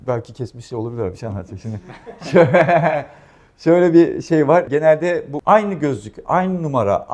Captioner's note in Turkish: kahkaha